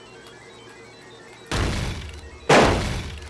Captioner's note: thunderous crashes